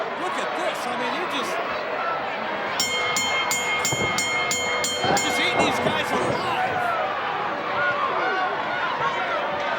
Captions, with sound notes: Look at this, I mean they're just. (bell rings) Just eating these guys alive.